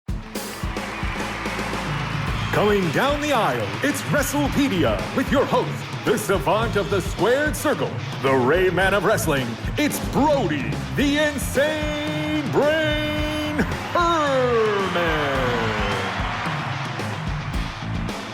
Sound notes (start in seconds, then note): 0.1 upbeat music playing; 1.0 crowd cheering; 15.0 crowd cheering